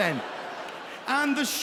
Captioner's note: audience laughing